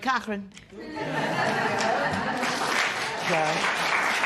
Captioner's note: laughter